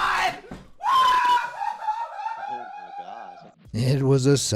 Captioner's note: laughing